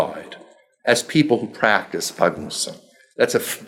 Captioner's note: speaking foreign language